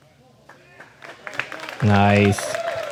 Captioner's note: crowd clapping cheering